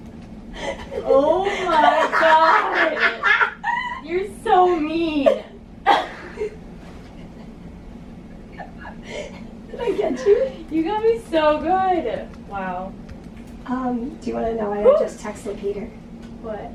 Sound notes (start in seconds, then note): 0.6 laughing